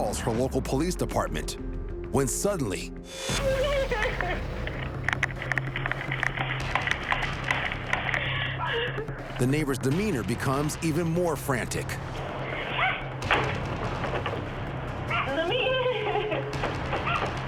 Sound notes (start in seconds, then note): 3.3 intruder crying; 5.5 door rattling; 13.4 window rattling; 15.1 crying; 17.2 knocking